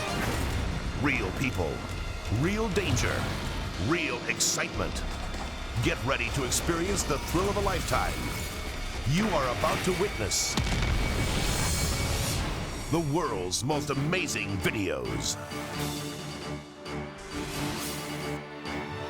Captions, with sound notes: (explosion rumbles) Real people, real danger, real excitement. Get ready to experience the thrill of a lifetime. You are about to witness (explosions rumbling) the "World's Most Amazing Videos". (dramatic orchestral music)